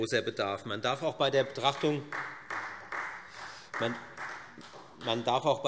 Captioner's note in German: Beifall Freie Demokraten